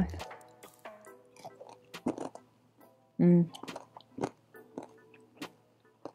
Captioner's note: crunch crunch crunch...😋😋